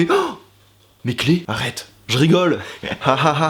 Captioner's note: gasp; laughing; sarcastic laugh